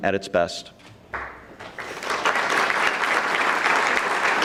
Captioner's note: audience clapping